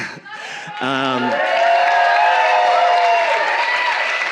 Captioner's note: audience cheering